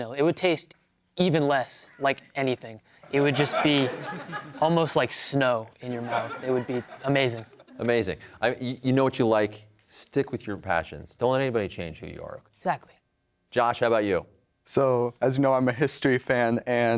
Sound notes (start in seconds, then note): 3.1 laughter